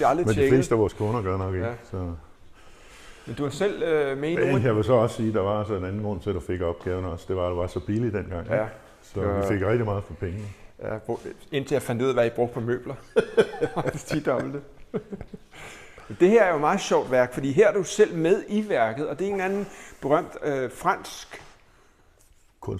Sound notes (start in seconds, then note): 13.0 laughing